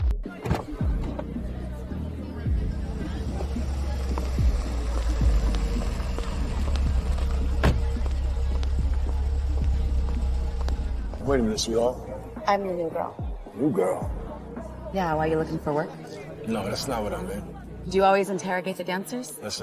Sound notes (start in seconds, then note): 0.2 faint music; 0.2 people chattering; 7.1 car door slamming